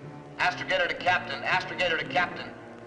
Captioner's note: loudspeaker